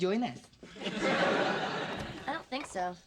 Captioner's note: sitcom laughter